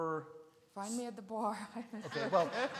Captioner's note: laughs; attendees laugh